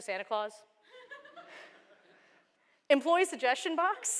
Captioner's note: laughter